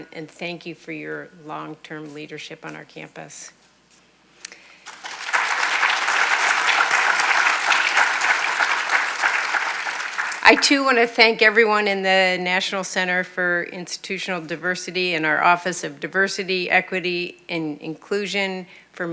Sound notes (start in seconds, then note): 4.7 audience applauds